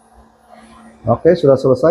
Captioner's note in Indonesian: printing